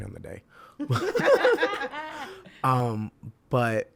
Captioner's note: all laugh